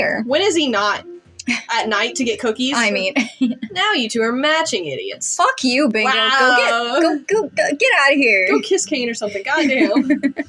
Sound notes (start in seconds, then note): 3.2 chuckle; 7.4 stammer; 9.3 chuckle